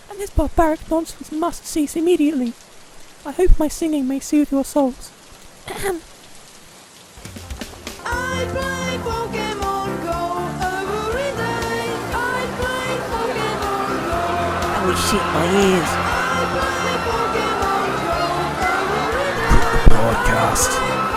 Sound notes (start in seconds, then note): 5.6 ahem; 11.7 indistinct crowd chatter; 16.3 crowd screaming as the song continues; 20.5 Keyaru laughing maniacally while the crowd screams and Flare continues singing